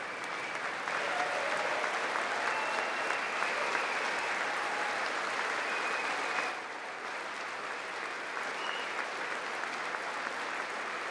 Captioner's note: applause